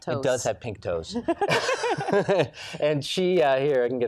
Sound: laughs

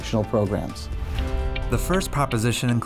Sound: swoosh

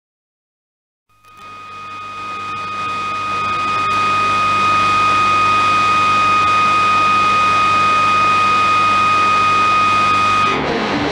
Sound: radio sound

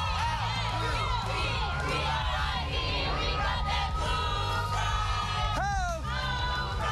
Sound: cheers and applause

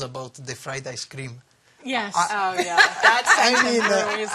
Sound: laughter

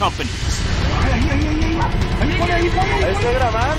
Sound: conversations in spanish

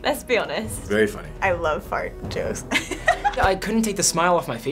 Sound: cracks up

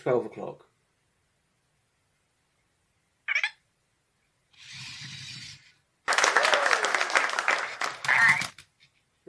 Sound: applause

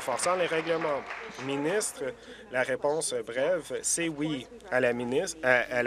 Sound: applause

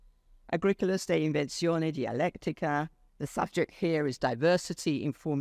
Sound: speaks foreign language

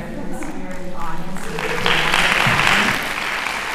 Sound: applause

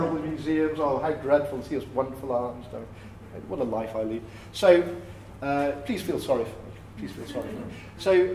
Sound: laughter

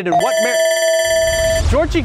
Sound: alarm ringing

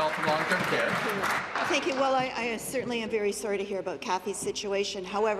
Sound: applause

